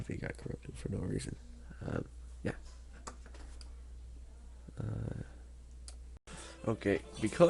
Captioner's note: click